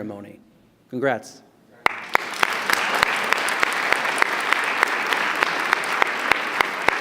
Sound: applause

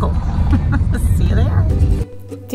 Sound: laughs

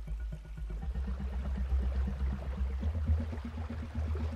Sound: water rushing

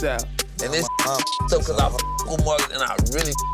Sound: beep; beep

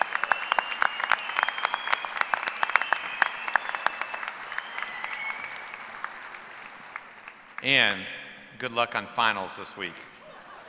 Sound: cheers and applause; applause

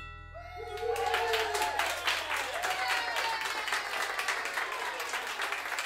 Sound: cheering and applause

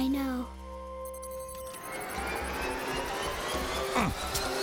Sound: beeping

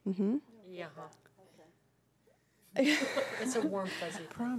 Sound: humming affirmatively

